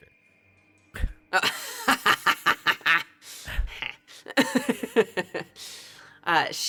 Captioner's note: laughs